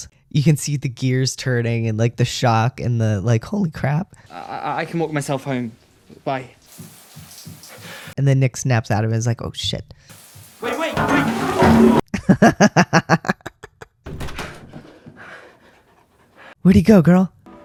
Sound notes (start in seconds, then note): 12.1 laughter